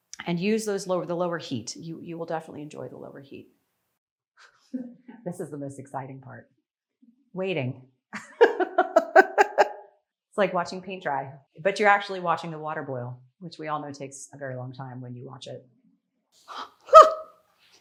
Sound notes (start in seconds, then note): 8.2 laughing